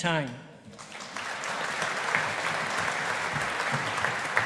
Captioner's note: audience applauding